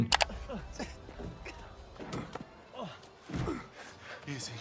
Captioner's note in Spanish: gente gruñendo